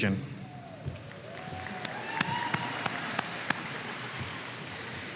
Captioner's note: applause